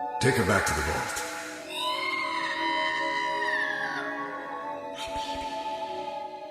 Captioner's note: screams